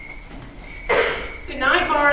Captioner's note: crickets chirping